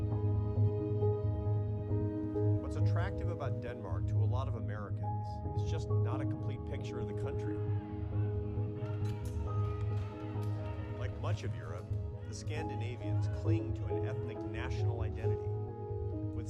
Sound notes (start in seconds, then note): 7.5 metal clanking; 7.8 men shouting